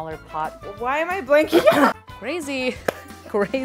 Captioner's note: laughs